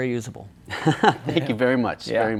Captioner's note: laughs